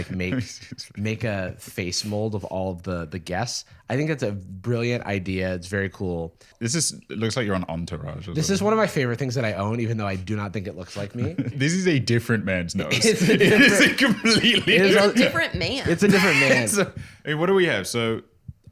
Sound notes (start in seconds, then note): 12.8 laughing